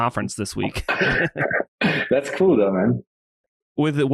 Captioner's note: laughs